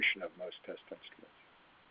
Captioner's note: faintly speaking